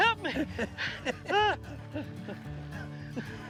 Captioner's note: laughs